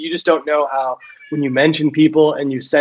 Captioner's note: cat meows